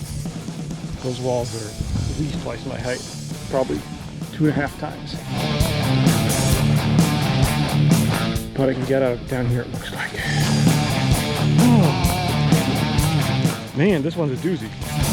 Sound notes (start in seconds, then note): 5.5 footsteps thumping; 11.4 sighs